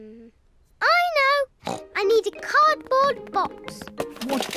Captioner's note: snorts